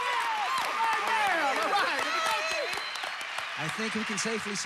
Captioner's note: audience applauding